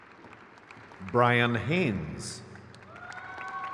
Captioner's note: crowd claps